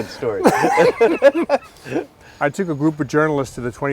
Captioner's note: laughing